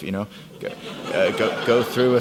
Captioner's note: audience laughs